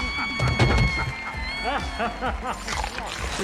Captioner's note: body thuds; screams; laughs, chomps